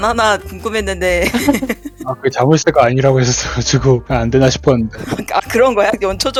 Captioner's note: laugh